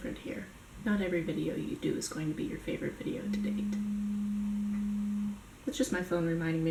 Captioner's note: buzzing sound